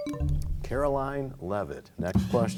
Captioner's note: bell chimes, time expires